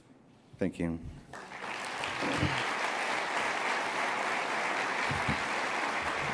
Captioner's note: applause